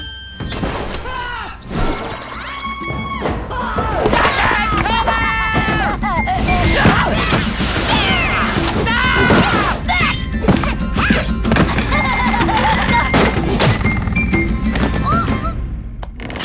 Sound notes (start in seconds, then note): 1.1 indistinct screaming; 6.5 Ginger laughing, grunting; 12.2 laughing